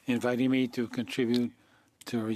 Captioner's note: speaking French